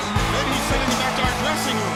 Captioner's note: crowd cheering